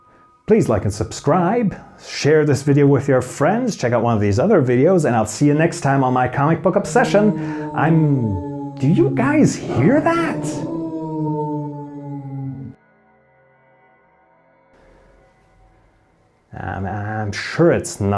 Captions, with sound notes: Please Like and subscribe Share this video With Your friends Check Out one of These Other videos and i'll see you next time on my comic book Obsession! I'm- (Howling grows louder) Do you guys Hear That? and sure it's nothing